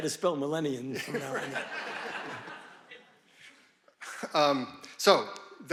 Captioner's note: audience laughing